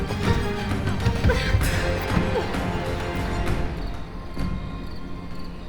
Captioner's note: Linda groaning; soft tense orchestral music